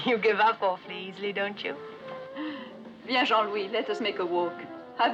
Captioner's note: laughing